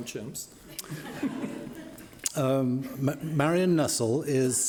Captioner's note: laughing